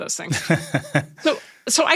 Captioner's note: Nilay laughing